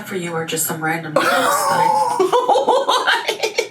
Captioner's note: laughs